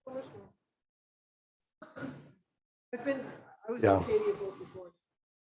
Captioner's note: speaking faintly